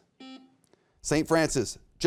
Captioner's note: buzzer beeps